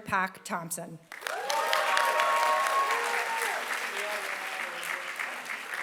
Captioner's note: applause